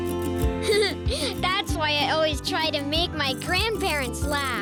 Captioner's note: giggles